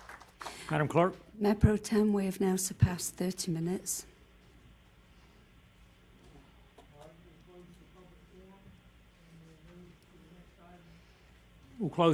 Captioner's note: applause